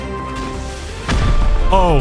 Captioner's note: boom